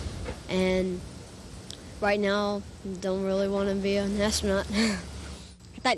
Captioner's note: chuckles